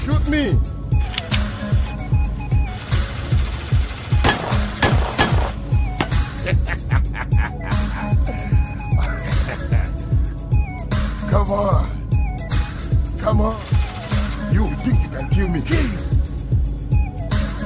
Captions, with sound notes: Shoot me. (gun cocks) (gun firing) (man laughing) Come on, come on. You think you can kill me, kill me.